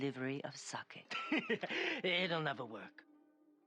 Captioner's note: laugh